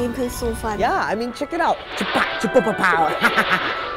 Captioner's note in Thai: เสียงเอฟเฟค